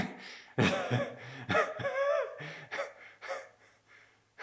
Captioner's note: Jacob laughing